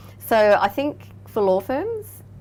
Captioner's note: none